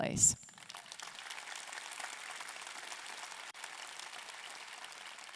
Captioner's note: audience clapping